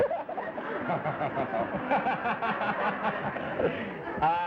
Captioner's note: laughter